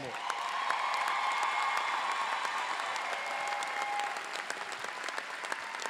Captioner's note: cheers